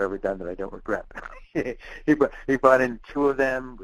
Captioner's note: laughing